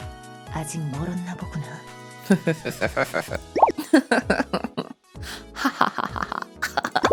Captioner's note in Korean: 웃음